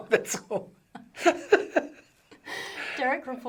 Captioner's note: both laughing